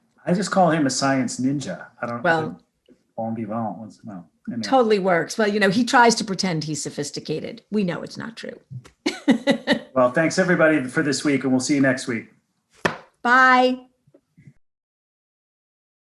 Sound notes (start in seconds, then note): 9.0 laughs